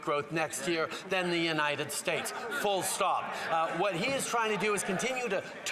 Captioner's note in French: voix de l'interprète